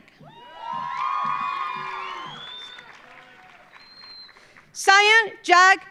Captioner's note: audience cheering; audience applauding